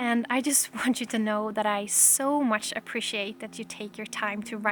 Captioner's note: none